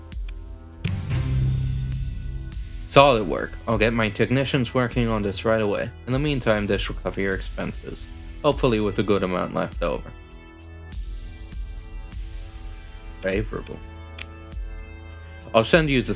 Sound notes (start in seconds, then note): none